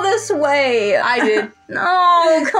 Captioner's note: whimper